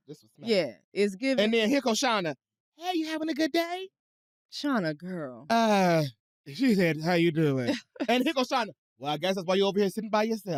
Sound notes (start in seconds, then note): 6.0 slurred speech; 7.4 chuckles